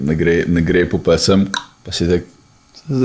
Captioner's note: clicks tongue